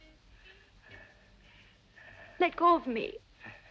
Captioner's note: Christian panting